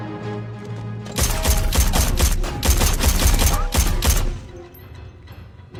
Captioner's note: gunfire